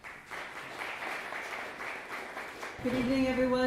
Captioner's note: audience applauds